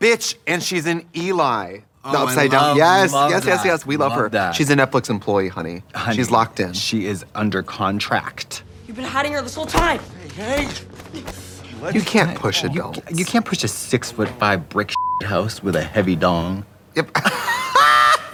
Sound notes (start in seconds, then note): 14.9 beeping